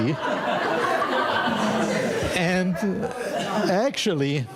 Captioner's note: audience laughing